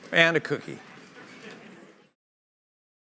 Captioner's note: laughter